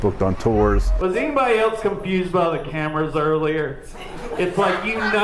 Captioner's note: laughter